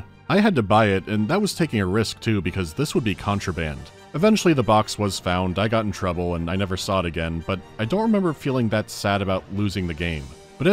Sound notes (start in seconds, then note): none